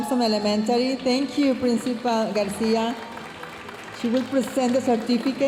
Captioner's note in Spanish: hablando en inglés